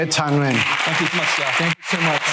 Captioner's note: applause